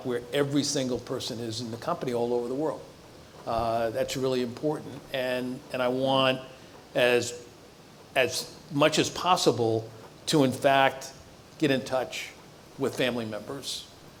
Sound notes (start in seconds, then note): none